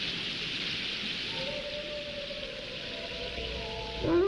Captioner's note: wolves howling